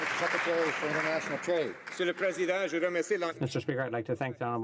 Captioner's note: some Applause